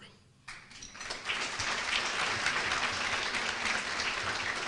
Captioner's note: applause